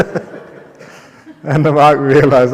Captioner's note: laughter